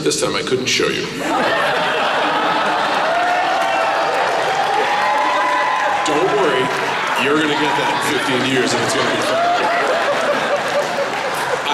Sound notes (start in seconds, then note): 1.2 laughter